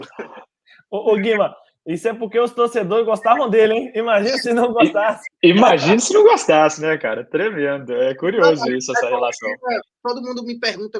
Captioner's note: laughs